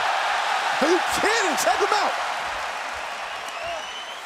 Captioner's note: cheers and applause